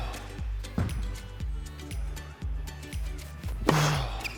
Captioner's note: ball bangs